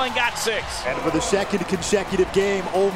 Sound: voiceover

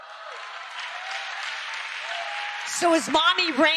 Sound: audience applause

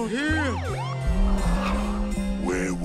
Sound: police sirens

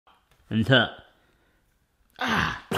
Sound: choking

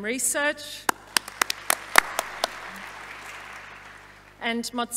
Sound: audience applauding

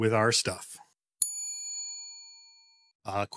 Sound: bell dings

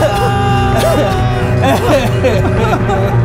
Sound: crying

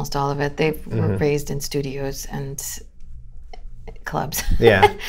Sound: laughter

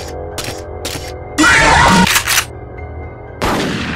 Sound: Mangle screaming; gun shot

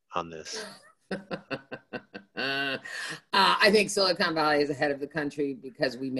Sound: laughs

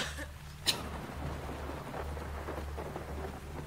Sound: coughs

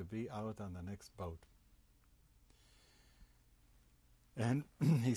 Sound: pauses for 3 seconds

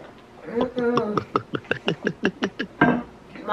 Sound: gulping

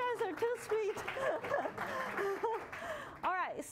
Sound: applause

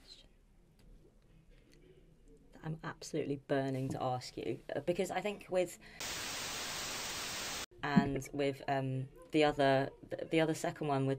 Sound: static

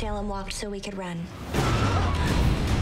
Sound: screams

